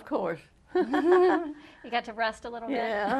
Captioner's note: laughter